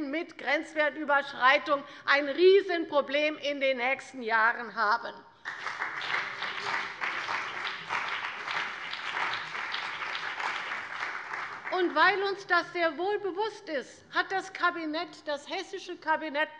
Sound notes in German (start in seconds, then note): 5.4 Beifall bei der CDU und dem BÜNDNIS 90/DIE GRÜNEN